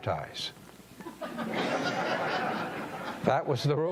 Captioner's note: audience laughing